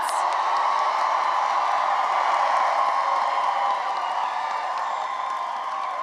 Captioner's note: cheering and applause